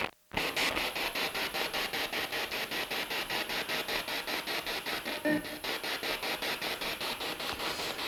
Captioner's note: noise of the spiritbox in the background